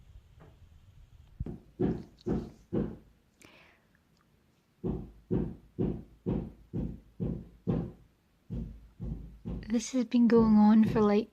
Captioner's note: hammering